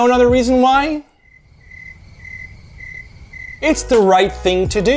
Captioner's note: sound of crickets